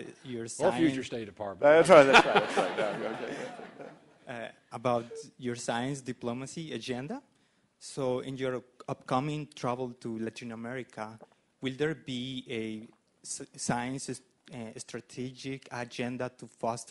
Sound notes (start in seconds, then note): 1.8 laughter